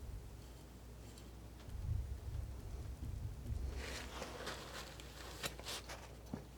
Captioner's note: scratching